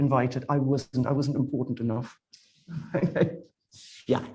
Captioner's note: chuckles